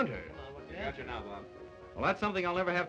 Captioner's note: men murmur interestedly